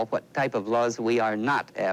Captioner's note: none